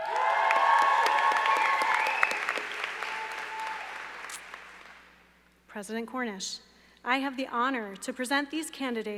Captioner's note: cheers and applause